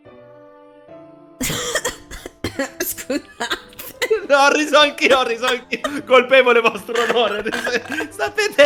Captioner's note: wheezing